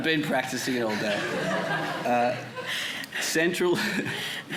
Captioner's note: audience chuckling